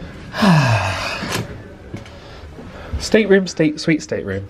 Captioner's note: sighs